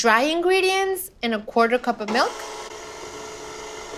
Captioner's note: whirring